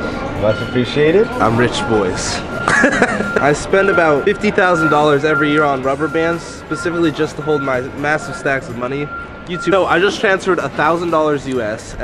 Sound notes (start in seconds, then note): 2.6 laughs